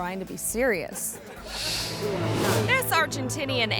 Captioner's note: audience laughing